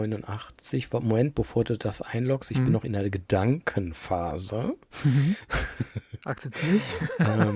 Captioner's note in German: gelächter